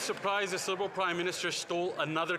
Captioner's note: some Applause